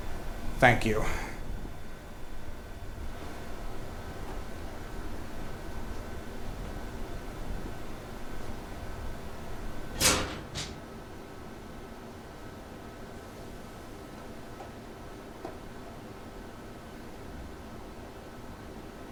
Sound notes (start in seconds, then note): 9.9 clanking